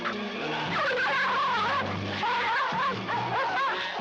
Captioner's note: dogs whimpering